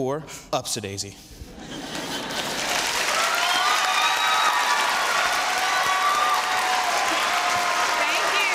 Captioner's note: applause